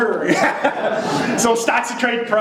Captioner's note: laughing; audience laughs